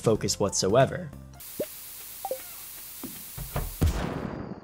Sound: flame sizzling; explosion booms

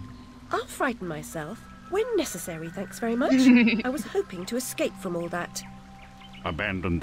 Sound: laughs

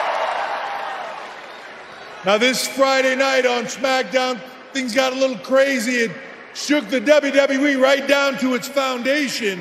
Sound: cheering

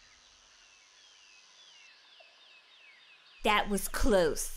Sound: birds chirping

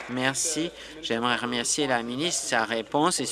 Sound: applause

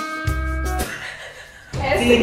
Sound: laughs

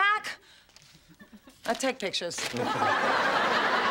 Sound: chuckles

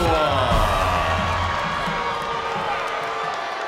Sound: crowd cheers

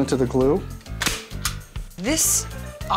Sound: stapling

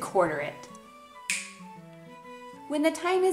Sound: snapping

